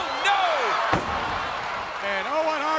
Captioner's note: audience cheers